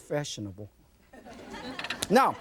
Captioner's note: audience laughs